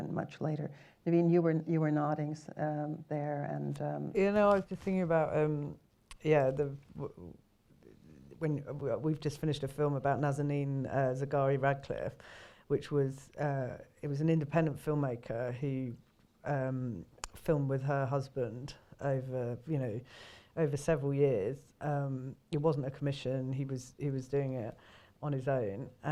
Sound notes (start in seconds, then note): 12.2 inhales